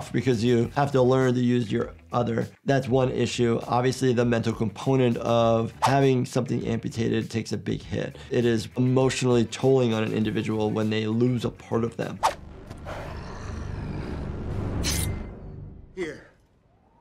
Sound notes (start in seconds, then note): 12.4 low growling; 13.0 metal slicing